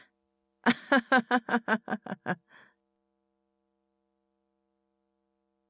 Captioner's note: laughs